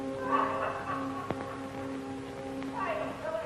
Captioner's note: happy laughing